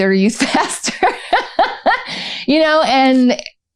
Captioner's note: laughter